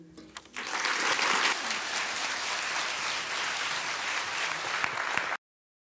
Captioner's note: applause